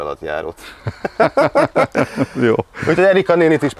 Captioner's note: both chuckle